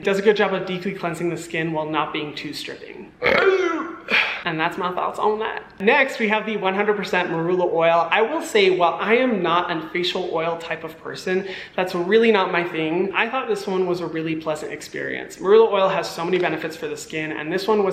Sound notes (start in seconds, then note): 3.2 burping